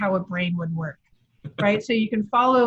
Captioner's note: laughs